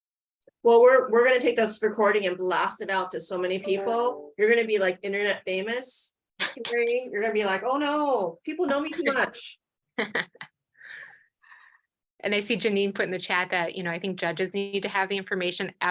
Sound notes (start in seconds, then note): 10.0 laughs